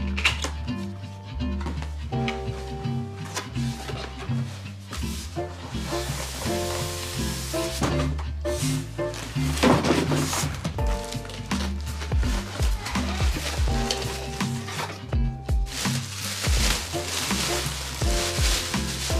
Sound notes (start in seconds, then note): 0.0 box clacking; 9.5 box clatters; 11.4 paper rustling